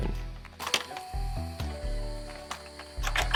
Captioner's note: clicking